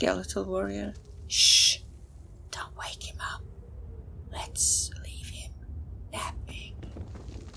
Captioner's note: whispers